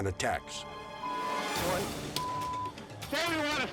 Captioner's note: beep